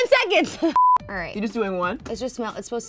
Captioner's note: beep